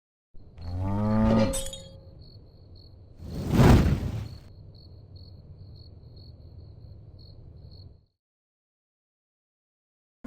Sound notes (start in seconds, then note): 0.6 cow mooing; 1.5 glass tinkling; 3.2 fire blazing